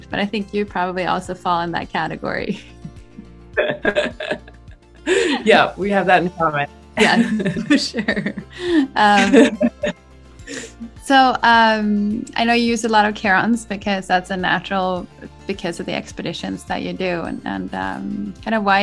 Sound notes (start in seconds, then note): 3.6 laughs